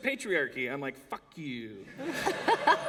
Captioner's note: laughter